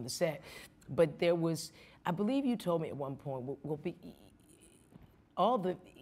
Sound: stammering

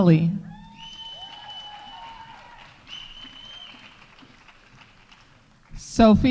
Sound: audience cheering; audience applauding

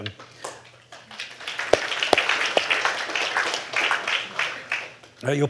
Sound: applause

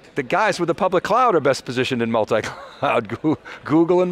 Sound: he laughs

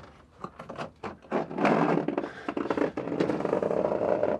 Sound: objects clattering

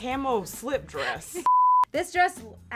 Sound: beep

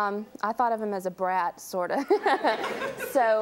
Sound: laughs

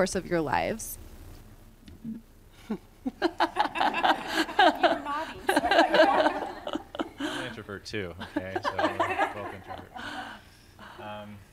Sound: laughter

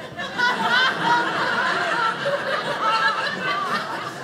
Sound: audience laughing

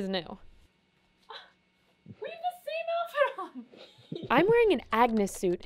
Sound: gasps

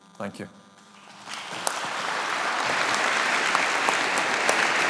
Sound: audience applauding

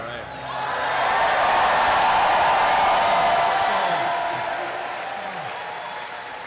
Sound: cheering

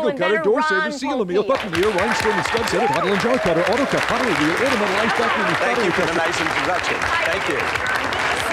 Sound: applause

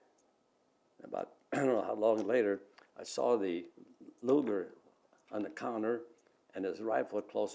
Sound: clears throat

